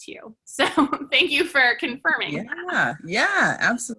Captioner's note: laughs